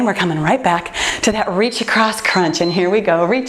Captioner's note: timer beeps